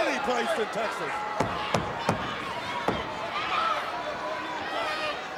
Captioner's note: hand banging